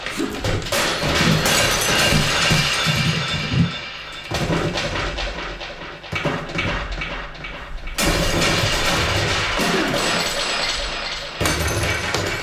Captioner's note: muffled sounds of a bedroom being wrecked